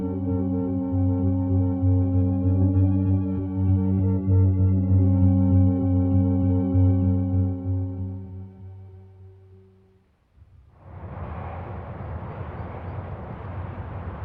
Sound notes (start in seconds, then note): 10.7 wind blowing